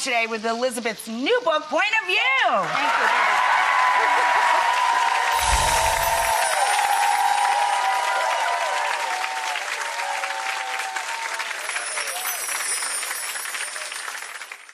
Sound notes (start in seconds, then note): 3.5 cheering and applause; 5.3 chimes